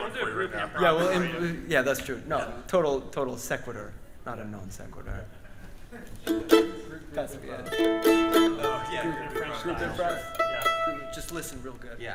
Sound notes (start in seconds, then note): 6.1 band chattering